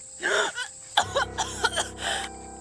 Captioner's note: coughing